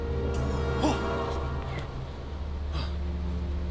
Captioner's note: eerie growl